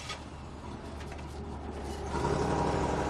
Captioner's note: car starting